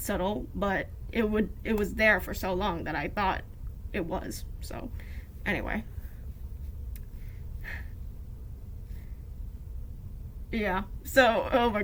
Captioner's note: sharp exhale